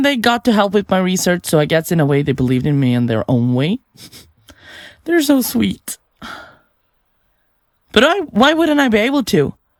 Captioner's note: sighs